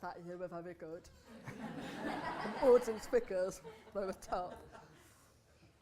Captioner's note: laughter